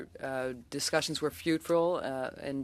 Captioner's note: speaking French